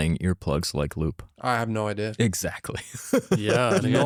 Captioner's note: laughs